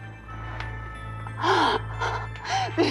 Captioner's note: menangis